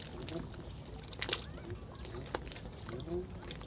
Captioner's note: water dripping